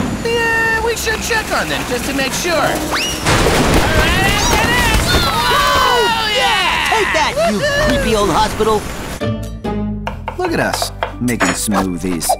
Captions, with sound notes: Yeah, we should check on them, just to make sure. -[crash] -Right after this! -Woo, yeah! -Take that, you creepy old hospital! Look at us making smoothies.